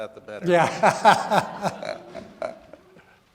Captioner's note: laughs